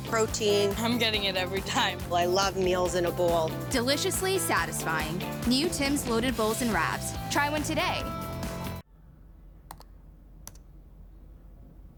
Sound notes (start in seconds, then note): 9.9 key clicks